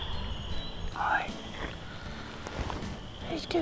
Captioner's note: whispers